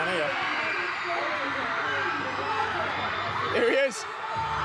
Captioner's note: people screaming